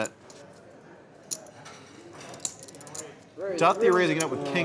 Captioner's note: poker chips clicking